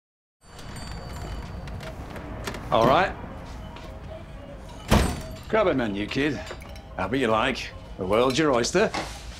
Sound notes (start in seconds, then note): 0.4 bell ringing; 0.5 door creaking; 4.8 door slamming